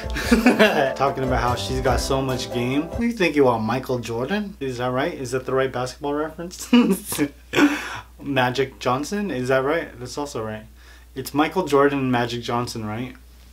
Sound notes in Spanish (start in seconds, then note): 6.7 Risas